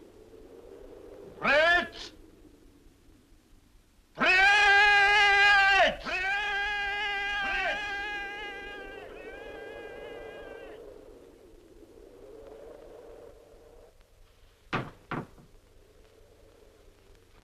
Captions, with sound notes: Brett! Brett! [Brett! echo]